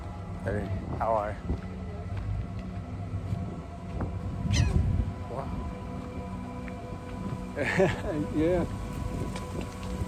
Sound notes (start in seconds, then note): 4.3 bird cawing; 7.6 chuckles